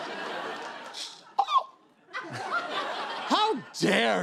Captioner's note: laughter; gasps